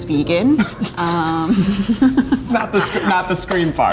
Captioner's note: guys snickering